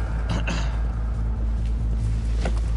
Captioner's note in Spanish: carraspea